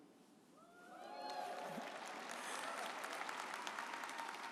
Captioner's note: audience applauds